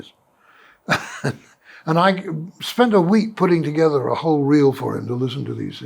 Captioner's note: laughs